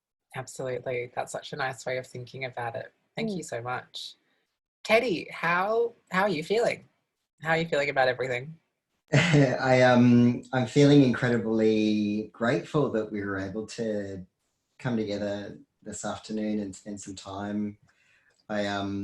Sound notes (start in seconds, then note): 9.1 chuckles